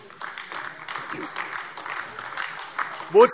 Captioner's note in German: Beifall AfD